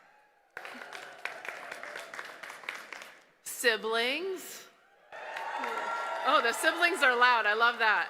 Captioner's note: cheers